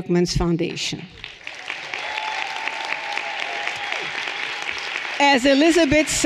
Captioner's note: everyone applauding and cheering